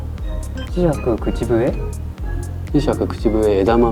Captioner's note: whistle